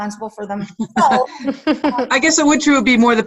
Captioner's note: laughing